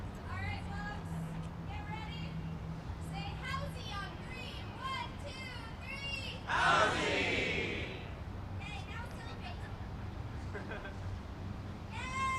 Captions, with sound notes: -All right. Get ready. Say “housing” on three! One, two, three... (crowd in unison) Housing!